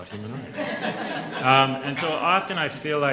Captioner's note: audience laughs